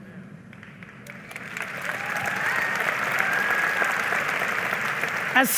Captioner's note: audience applauding